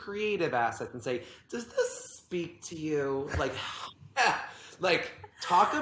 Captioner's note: laughs